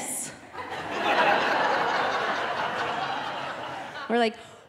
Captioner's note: audience laughing